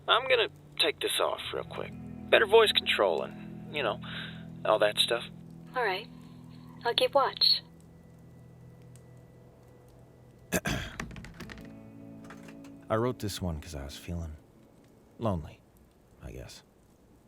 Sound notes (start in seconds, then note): 10.5 clears throat; 12.2 helmet Clatters